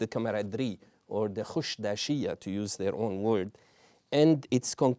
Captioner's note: non-english